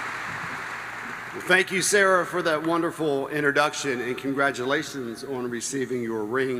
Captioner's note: applause